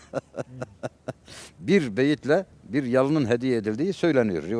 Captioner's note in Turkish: kahkaha